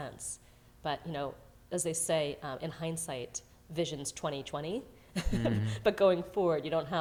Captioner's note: laughs